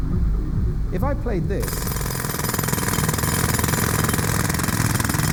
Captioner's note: pneumatic drill noise